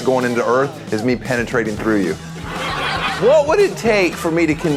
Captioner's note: laughter